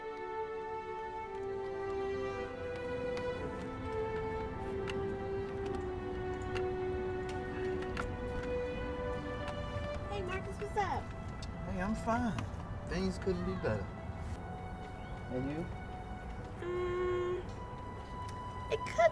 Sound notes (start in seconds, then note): 0.2 dramatic music; 4.7 rattling